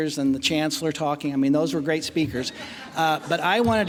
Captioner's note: laughing